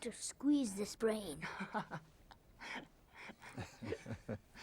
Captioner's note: laughing